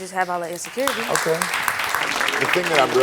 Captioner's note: audience clapping